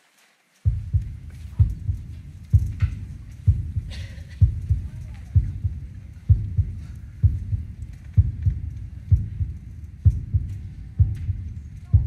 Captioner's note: heart beating